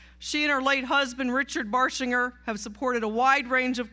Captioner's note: none